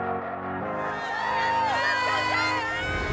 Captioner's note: inspiring music; cheerleaders cheering